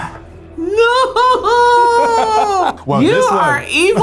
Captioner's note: laughs